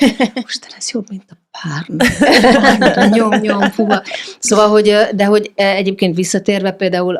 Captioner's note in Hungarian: nevetés